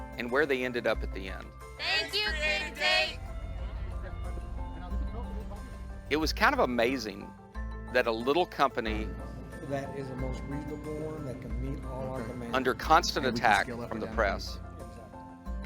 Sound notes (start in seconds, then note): 1.9 workers chattering